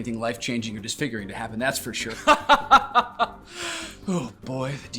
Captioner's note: laughs